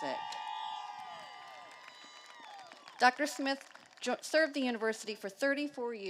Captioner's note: applause